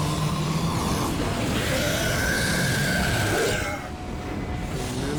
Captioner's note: shrieking